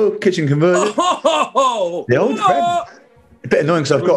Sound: chortling

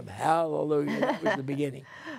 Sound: laughter

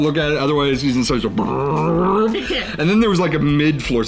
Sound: chuckling

